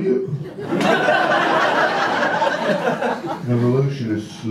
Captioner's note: audience laughter